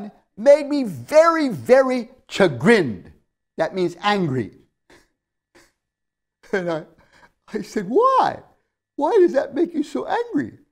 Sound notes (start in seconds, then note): 5.5 laughs